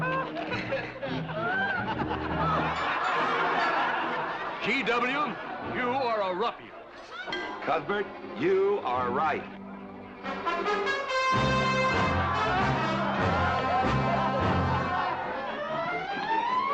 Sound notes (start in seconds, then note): 2.4 crowd laughing; 11.3 crowd laughing